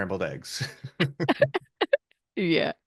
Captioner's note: laughs